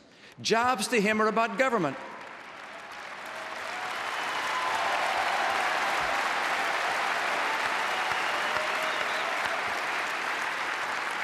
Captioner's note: applause